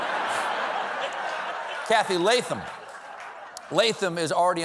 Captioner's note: laughter